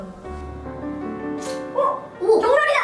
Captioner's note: snap